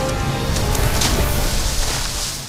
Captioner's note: explosion splash